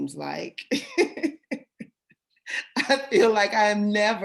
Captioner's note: laughter